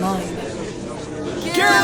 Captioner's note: gallery chattering